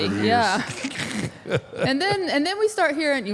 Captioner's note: Mark laughs